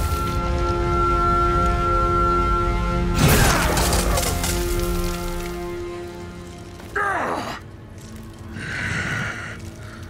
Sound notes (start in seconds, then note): 6.5 grunting